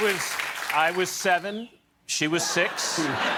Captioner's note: cheers and applause